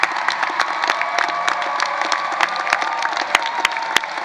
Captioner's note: applause